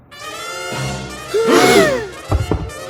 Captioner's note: gasps